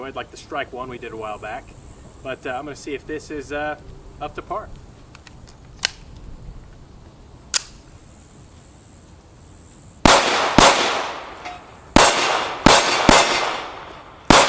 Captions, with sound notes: like the Strike One we did a while back. But I'm gonna see if this is up to par. (clicking) (gunshots)